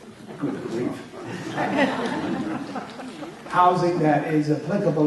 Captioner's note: crowd laughter